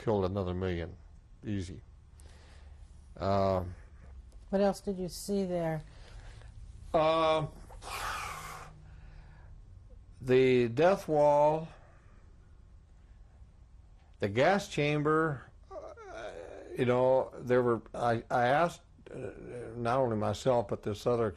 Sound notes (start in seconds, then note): 7.1 sighs